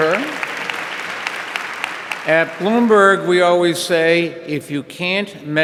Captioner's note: audience applauding